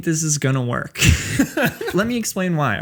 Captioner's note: laughs